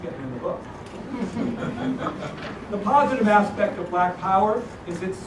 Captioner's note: laugh